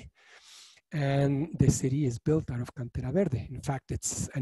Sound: speaking in foreign language

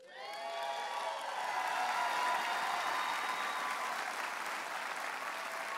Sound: audience applauding and cheering

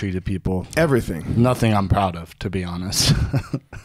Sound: laughs

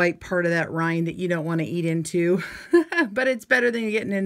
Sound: chuckling

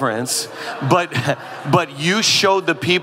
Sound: audience laughing

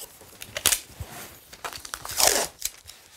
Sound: tape crackles

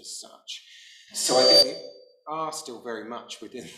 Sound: mic buzzing

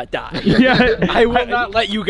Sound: laughing

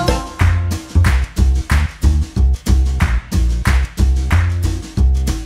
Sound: clap

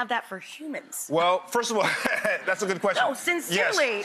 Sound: laughs

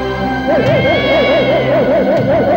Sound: cat yowling

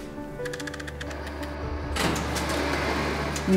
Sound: machine noise

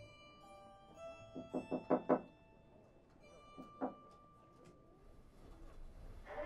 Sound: knocking at the door

